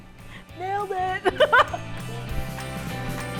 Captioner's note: laughs; upbeat music